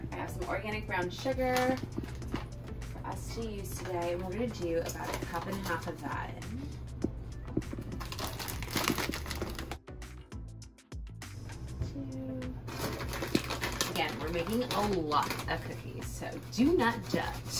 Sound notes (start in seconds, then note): 7.3 quiet upbeat music; 7.6 packaging rustling; 12.6 quiet upbeat music; 12.6 packaging rustling